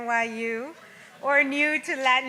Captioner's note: audience laughs